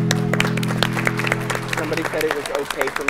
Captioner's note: clapping